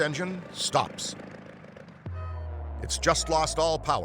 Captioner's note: engine whirring